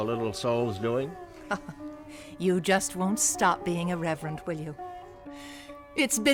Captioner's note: laughs